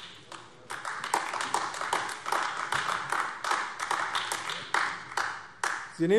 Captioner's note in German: Beifall AfD